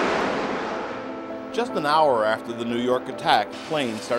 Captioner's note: airplane loudly flys